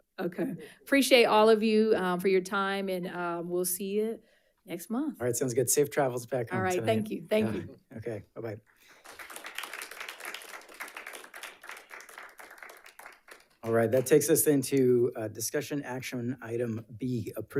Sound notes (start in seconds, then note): 8.9 audience applauding